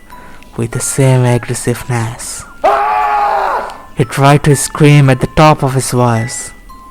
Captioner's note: scream